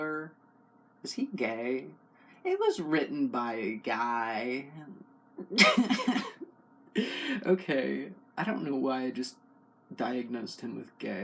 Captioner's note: laugh